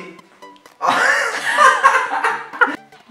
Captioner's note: laughs